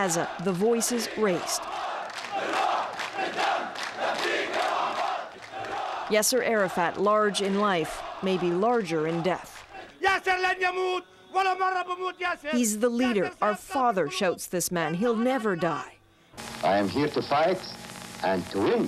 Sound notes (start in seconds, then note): 3.3 chanting